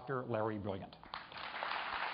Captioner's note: applause